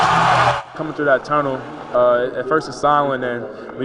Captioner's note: crowd